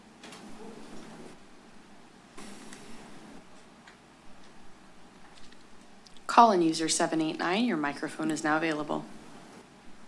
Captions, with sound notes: [rustles] - Call in user 789. Your microphone is now available.